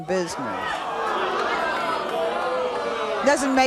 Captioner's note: audience jeering